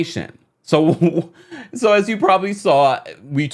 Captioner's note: laughs